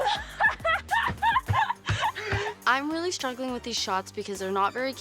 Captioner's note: laughter